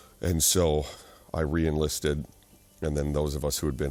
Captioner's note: none